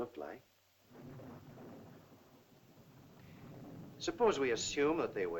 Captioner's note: thunder rumbles in distance